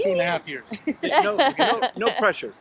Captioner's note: laugh